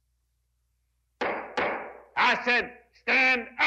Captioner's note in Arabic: ضربات قوية